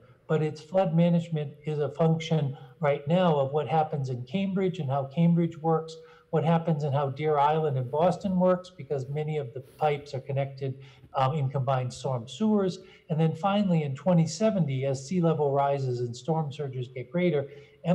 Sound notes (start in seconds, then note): none